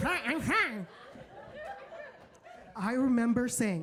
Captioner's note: audience laughs